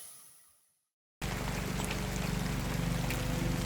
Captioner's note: noise of a helicopter, flying overhead